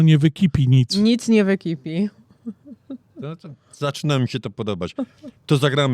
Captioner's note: śmiech